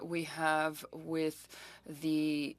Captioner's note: speaking french